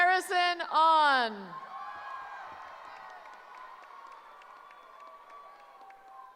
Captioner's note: cheering